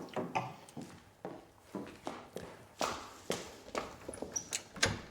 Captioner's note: footsteps; opening door